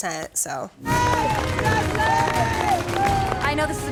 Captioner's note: clapping